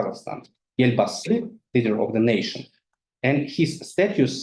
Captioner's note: speaking in foreign language